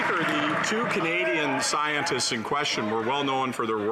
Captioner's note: some Applause